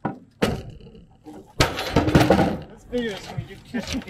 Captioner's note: board crashing onto platform